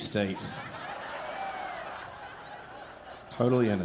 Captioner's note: audience laughing